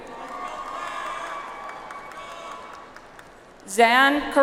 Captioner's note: audience applauds